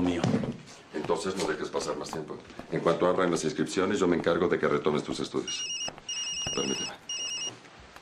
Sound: phone ringing

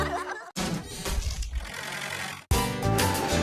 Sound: rumbles; thud!

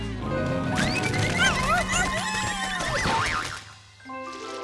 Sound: squeaking

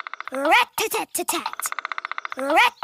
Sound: woodpecker pecking

